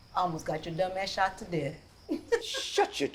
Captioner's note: laughs